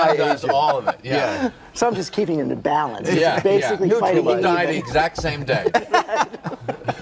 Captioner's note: laughs